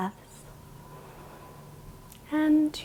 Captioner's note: inhales